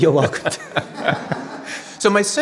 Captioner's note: audience laughing; laughing